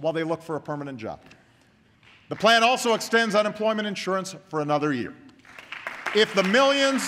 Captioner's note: applause